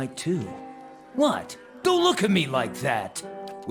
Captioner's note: click